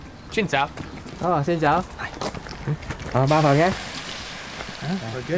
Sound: speaks in foreign language; vendor speaks in foreign language

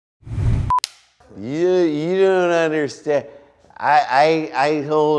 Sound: slurring

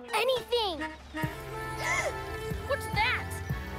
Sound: rhythmic music playing; gasps

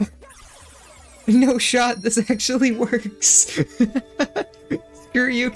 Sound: laugh

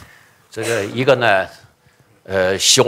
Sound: speaking chinese

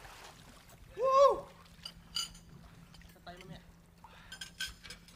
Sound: man cheering

